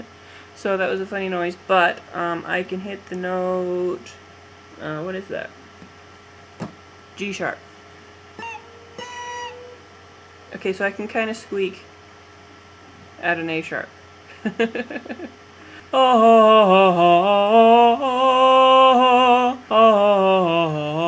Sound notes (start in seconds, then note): 8.4 squeaks; 14.3 laughs; 16.1 wordless singing